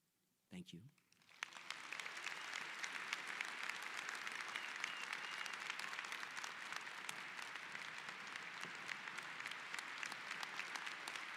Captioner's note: applause